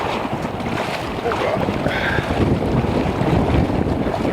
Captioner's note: water rushing